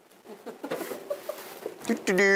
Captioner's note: students laughing